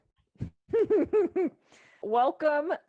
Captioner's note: laughs